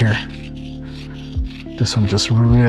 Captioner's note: hematite scraping on stone